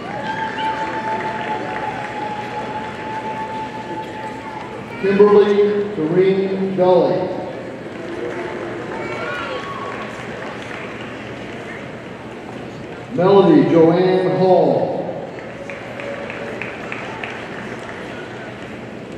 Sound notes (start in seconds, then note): 0.0 audience cheering and applauding; 7.8 audience applauding; 15.2 audience applauding